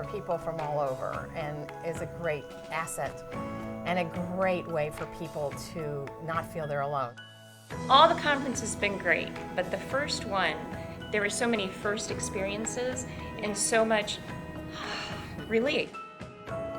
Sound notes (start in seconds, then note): 14.7 ahhh